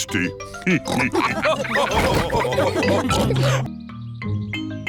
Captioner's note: all laugh